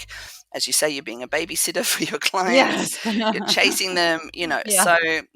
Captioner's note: laugh